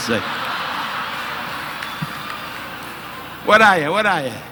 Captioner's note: audience laughing